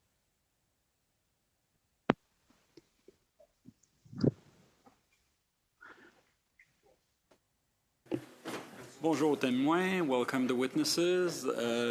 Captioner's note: speaking French